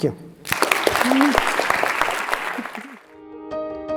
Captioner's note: applause